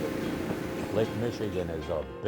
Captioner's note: boat engine whirring